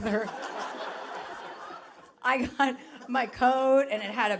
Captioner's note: audience laughing